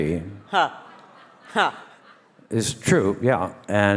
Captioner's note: all laugh